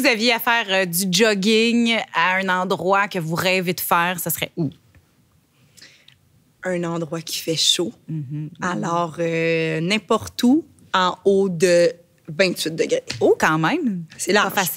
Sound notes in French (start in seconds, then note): 4.8 silence